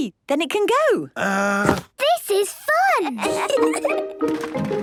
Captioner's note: kids giggling